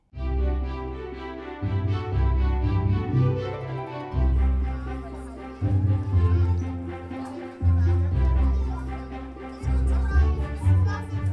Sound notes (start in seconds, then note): 0.2 classical music; 4.3 kids chatting